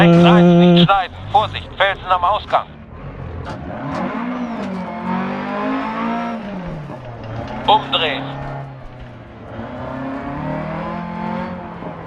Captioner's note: engine sounds and co-pilot's instructions